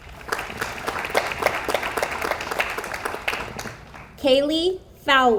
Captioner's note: audience applauds